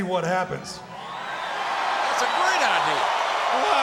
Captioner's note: audience cheering